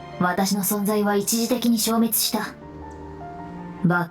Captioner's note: none